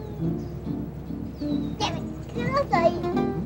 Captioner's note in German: Sie spricht spanisch